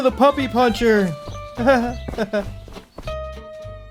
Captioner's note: fake Laugh